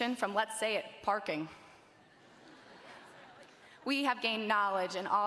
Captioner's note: graduates chuckling